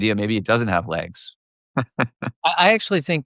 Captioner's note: laughter